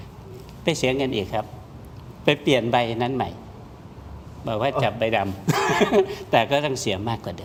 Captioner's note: laughs